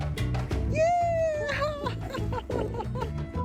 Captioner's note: laughter